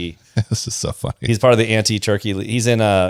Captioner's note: laughs